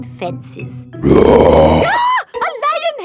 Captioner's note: roars; screams